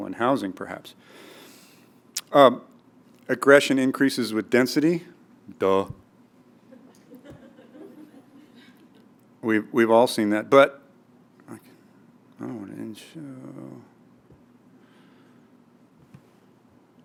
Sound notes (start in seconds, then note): 6.7 laugh